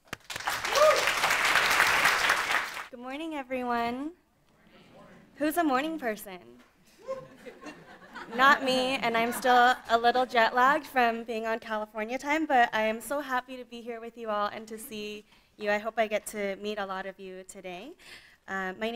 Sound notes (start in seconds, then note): 0.0 audience applauding; 7.0 scattered laughing